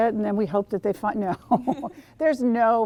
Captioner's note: laughing